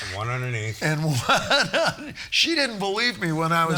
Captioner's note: laughing